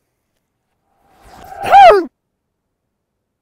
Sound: grunt

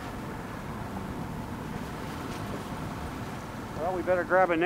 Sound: boat engine idling

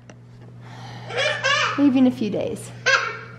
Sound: laughs

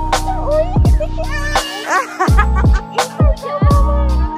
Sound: super chaotic laughter

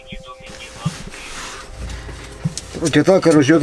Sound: radio exchange

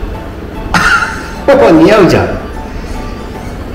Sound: laughs

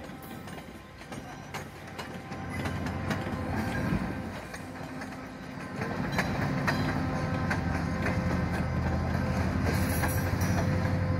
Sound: approaching MPI40 engine noise

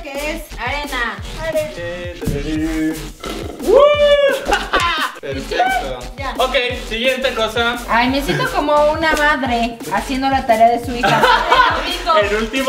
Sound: scream

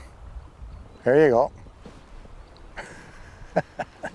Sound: chuckles

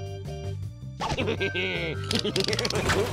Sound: laughs wickedly

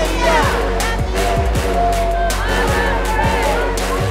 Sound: crowd chanting

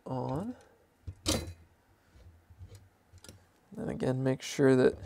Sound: metal thudding

